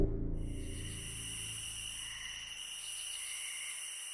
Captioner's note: crickets chirp